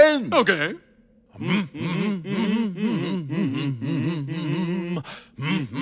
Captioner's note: both hum